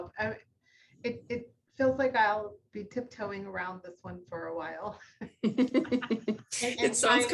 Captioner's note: laughter; chuckles